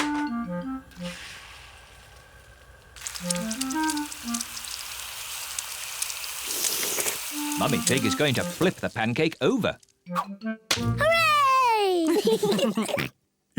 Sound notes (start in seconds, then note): 5.3 all slurp; 11.8 kids and mummy pig laugh